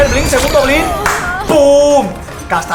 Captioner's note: claps in Spanish